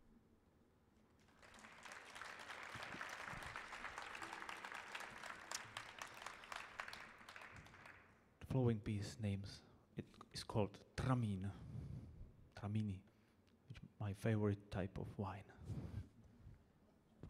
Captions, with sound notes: [audience applauding] The following piece name's, it's called "Tramin," Tramini, my favorite type of wine.